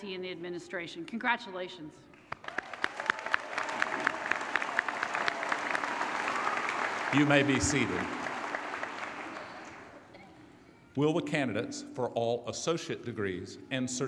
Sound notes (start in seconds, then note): 2.4 applause; 7.2 voiceover